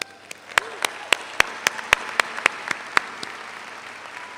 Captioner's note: all applaud